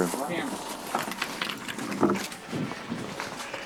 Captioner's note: keys rattling